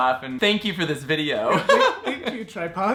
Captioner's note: laughing